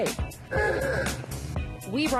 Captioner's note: horn honks